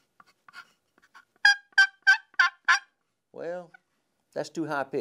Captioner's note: turkey call noise